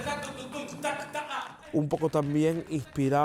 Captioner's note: Tararea